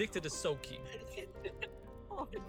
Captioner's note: laughs